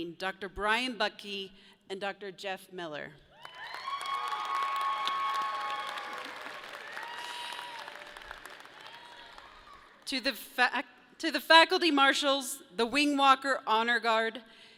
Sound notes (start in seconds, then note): 3.3 people cheer; 6.2 audience claps